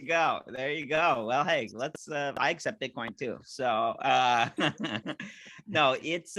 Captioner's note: laughing